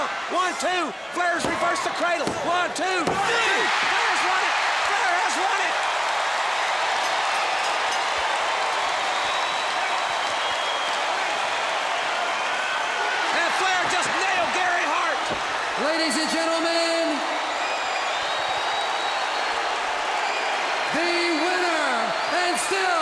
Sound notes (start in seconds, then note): 0.9 crowd cheering; 1.7 bell ringing